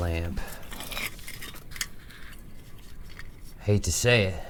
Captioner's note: lamp rustling